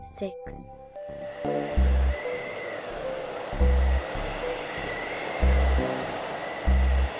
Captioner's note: voiceover; rhythmic tones; wind blowing